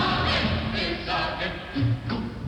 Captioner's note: quietly